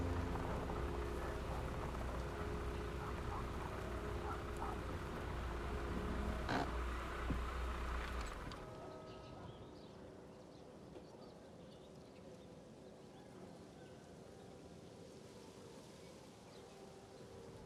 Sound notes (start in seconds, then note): 0.6 leaves rustle; 9.5 church bells ring in the distance